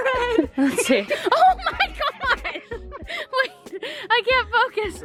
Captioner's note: laughing